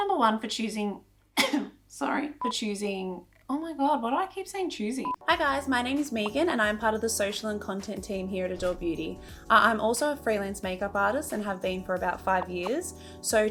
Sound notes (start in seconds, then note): 1.4 coughs